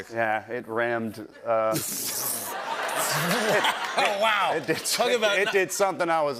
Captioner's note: laughter